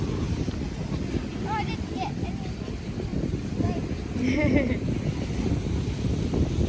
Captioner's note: chuckles